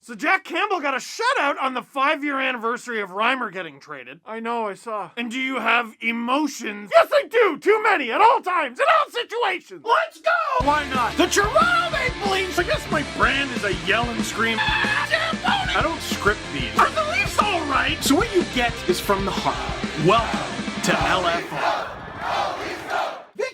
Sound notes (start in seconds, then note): 10.5 rock music plays throughout intro; 14.6 screams; 21.9 Go Leafs Go chants